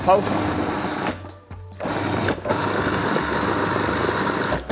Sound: processor churning

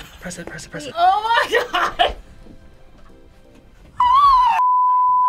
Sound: squeals

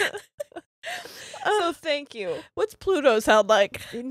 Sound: both laughing

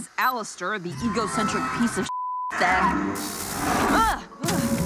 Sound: beep

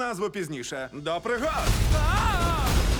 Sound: yells; dramatic music plays

